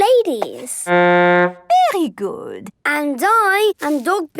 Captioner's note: horn blowing